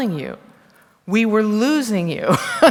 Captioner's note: laughter